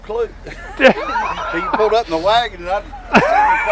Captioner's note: laughing